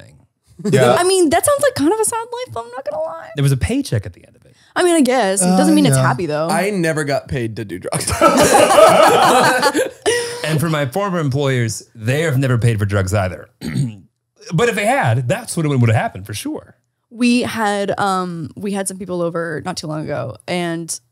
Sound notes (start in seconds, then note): 7.9 they all laugh